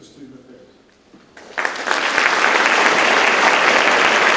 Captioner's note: audience claps